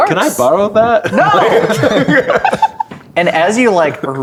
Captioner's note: players laughing